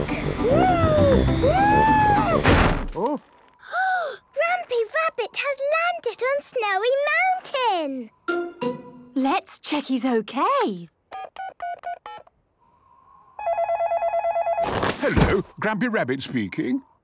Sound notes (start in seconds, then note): 2.2 snowy crashing; 11.0 dial tones beeping; 13.4 phone ringing